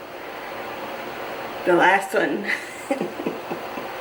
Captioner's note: evil Laugh